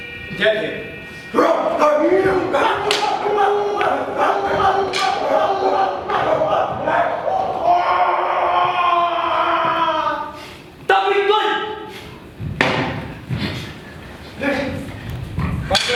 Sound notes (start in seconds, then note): 1.8 dogs barking, farm animals terrified; 8.6 scream of terrible pain